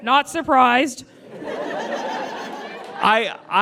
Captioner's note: audience laughs